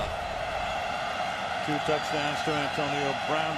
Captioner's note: cheering